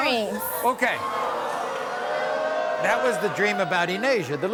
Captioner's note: audience booing